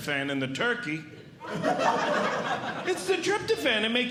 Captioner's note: audience Laughing